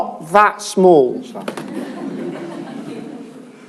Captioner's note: laughter